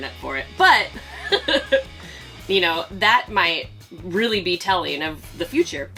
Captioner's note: laughs